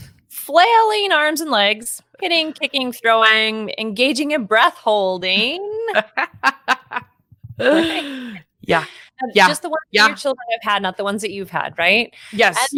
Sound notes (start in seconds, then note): 6.0 laughing; 8.4 speaking faintly